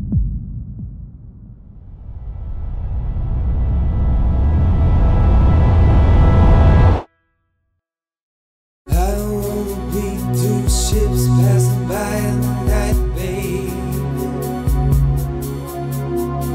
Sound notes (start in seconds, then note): 1.8 wind blowing; 8.8 upbeat music